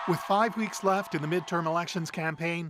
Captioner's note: cheers and Applause